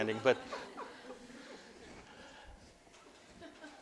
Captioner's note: audience: Laughter